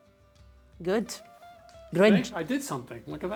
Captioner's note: speaking Italian